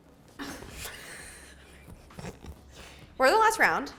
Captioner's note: laughing